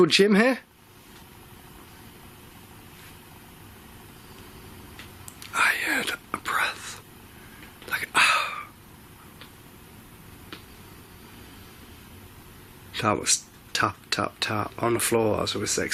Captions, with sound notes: Is anybody called Jim here? I heard a breath. Like, (loud exhale). (tapping) That was tap, tap, tap on the floor